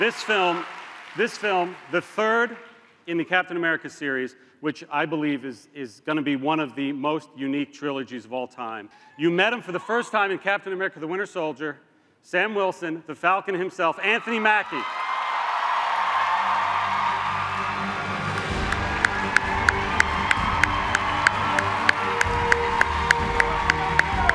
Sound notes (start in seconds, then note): 15.1 cheers and applause; 19.2 applauds